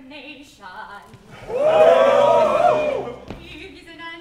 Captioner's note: MEN cheer